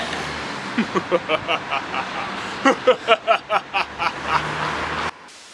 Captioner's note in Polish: evil laughter